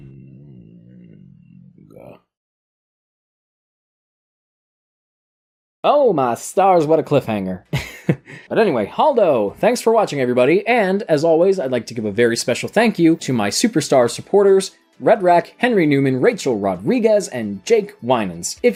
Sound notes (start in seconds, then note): 7.8 chuckles